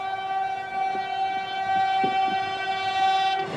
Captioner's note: honks